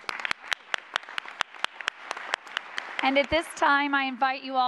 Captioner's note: applause